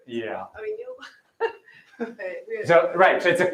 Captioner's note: laughs